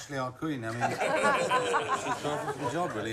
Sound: laughing

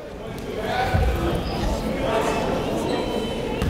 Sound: chatter

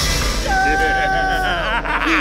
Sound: laughing

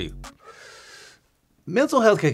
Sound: inhaling

